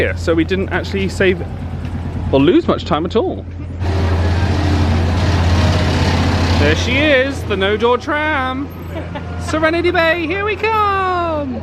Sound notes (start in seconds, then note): 3.7 engine revs